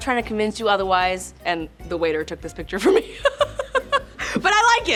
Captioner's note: laughs